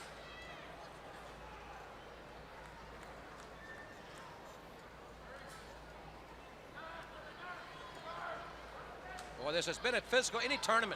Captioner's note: crowd chatter